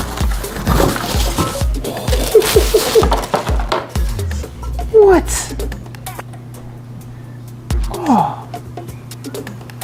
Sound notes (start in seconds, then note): 1.4 laughing